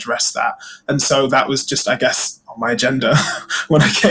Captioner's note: laughs